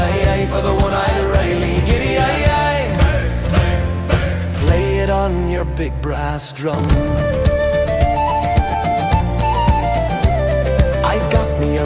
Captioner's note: bang, bang, bang